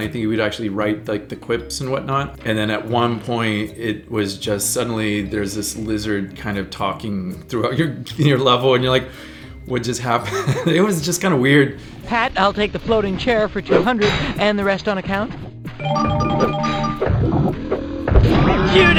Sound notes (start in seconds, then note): 10.2 laughing; 15.7 whimsical music